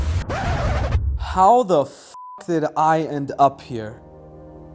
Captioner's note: beep